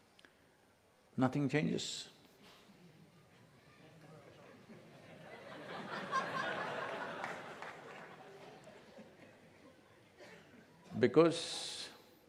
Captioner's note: laughter